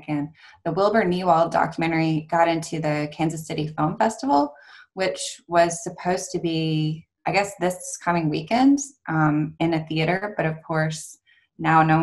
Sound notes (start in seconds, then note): none